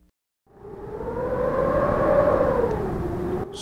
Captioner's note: wind howls